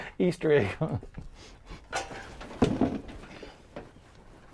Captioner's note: laughs